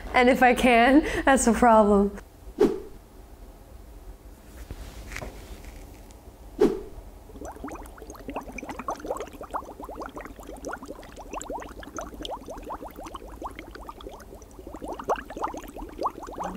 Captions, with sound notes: And if I can't, that's a problem. (timer whooshes) (fabric shifting) (timer whooshing) (water bubbling)